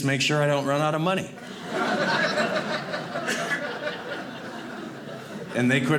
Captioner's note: audience laughing